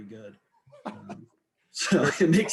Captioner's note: laughing